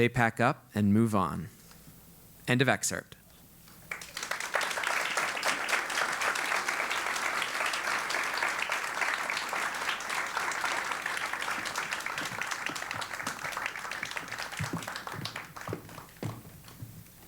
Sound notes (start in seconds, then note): 3.8 applause